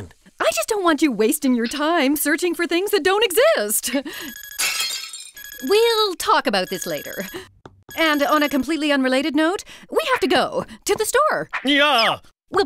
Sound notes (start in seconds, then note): 4.6 dish shattering; 5.3 watch beeps